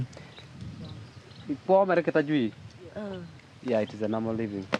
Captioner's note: speaking in foreign language